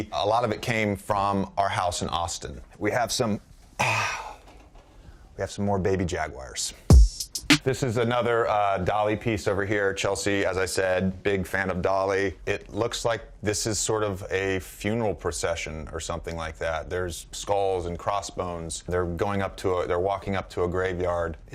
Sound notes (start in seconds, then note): 3.8 sighs; 6.9 upbeat music